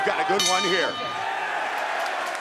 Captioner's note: bell dings